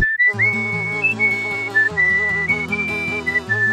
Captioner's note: bee, whistle